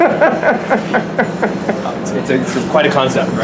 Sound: laughs

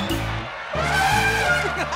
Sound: elephant horn; laughing

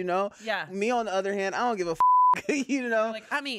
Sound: beep

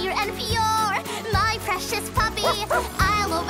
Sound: barking

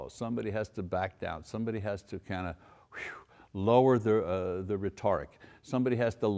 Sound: exhales

